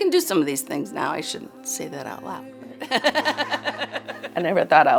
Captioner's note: laughs